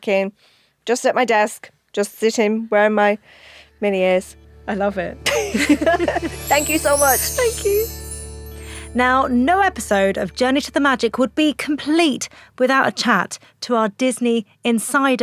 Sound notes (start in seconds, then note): 5.2 both laugh; 5.8 magical music